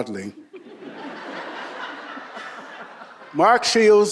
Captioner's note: audience laughing